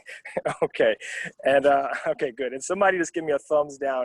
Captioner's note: laugh